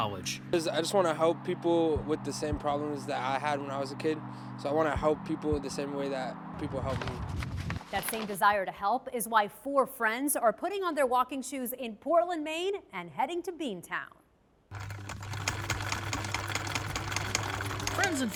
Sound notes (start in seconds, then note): 6.8 paper rustles; 14.7 sewing machine hums